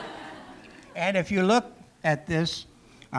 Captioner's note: laughter